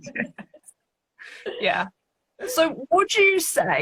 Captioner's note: laughing